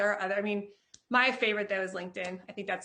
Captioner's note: claps